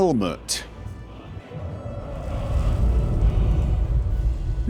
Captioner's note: dragon roaring outside